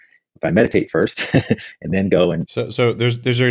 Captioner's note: laughs